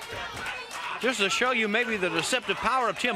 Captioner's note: crowd cheering